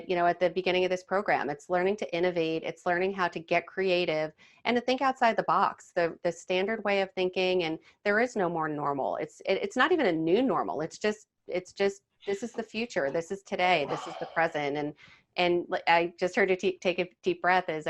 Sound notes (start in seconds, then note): 14.7 sighing